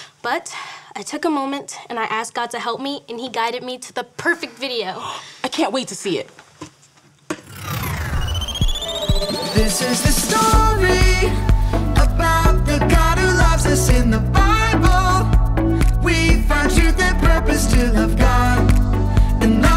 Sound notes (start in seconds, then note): 5.6 gasps; 7.9 electronic music